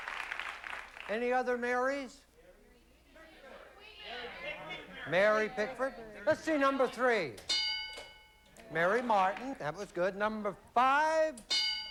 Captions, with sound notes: ANY OTHER MARYS? [PEOPLE YELLING] MARY PICKFORD? LET'S SEE NUMBER 3. MARY MARTIN. THAT WAS GOOD. NUMBER 5.